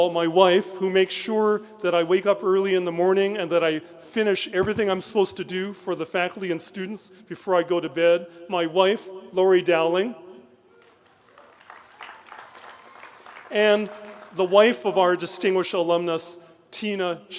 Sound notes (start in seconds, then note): 10.7 applause